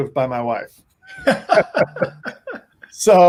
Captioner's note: laughter